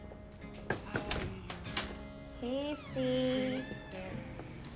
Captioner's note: knocks and opens door